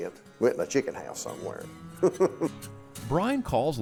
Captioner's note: laughing